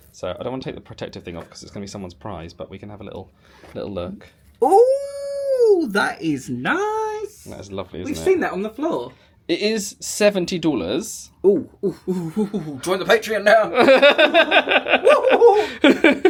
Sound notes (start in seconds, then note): 13.7 laughing